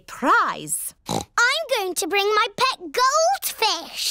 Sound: oinks

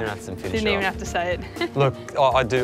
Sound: laughs

